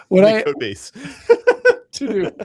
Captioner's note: laughter